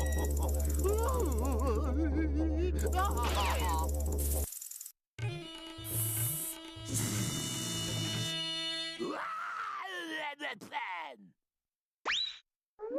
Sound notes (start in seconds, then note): 1.0 crying; 3.0 rattling; 6.6 hissing; 9.0 yelling